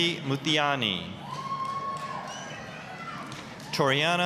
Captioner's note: applause, cheering